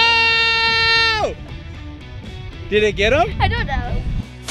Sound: shouting

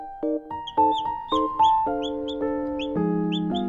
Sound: tweet

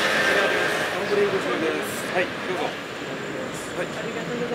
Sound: offering coffee in Japanese

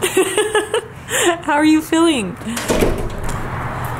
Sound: laughs

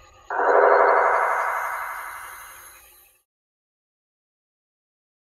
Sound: gunshots blasting

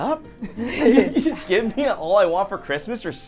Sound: laughing

